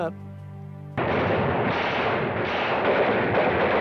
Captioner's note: gunfire